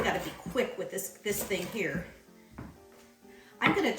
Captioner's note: knife slices